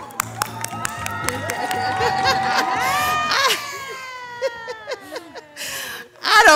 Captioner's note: everybody applauding; everybody laughing; laughs